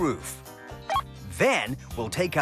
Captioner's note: beep